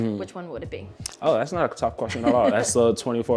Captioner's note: laughs